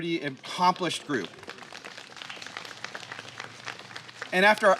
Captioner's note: applause